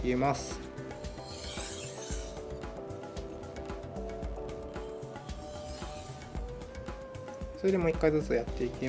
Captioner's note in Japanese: 刃先を研ぐ音